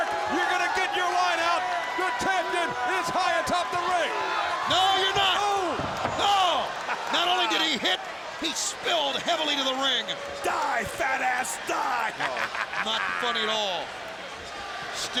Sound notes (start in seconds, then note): 11.9 laughs